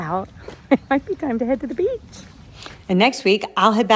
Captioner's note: chuckling